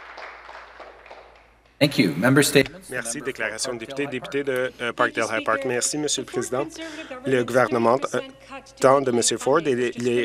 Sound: applause

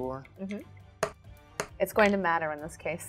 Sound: dice thudding

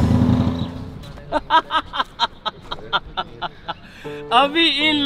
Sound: laughing

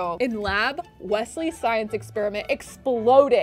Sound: none

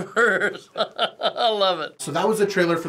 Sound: laughing

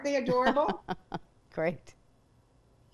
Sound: laughs

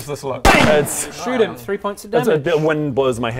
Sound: bam!

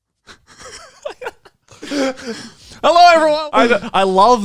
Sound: laughs

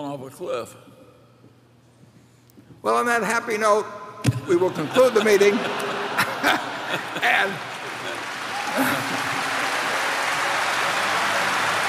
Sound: laughter

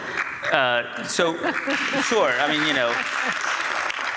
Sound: audience applauds

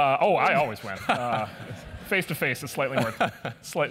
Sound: laugh

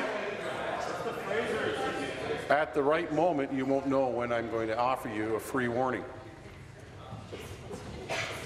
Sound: conversation din

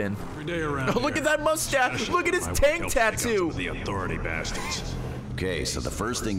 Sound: laughs

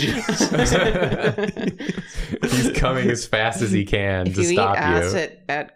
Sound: laughter

